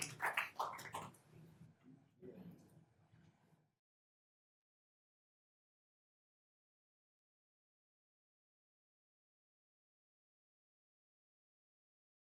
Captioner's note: applause